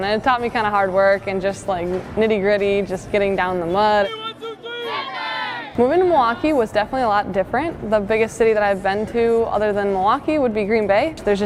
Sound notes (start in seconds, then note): 4.1 team chanting